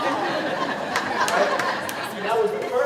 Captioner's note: laughing